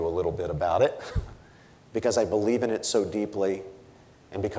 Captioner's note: chuckles